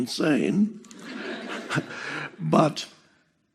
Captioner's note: publicul râde